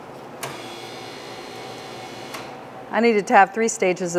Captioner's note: machine revving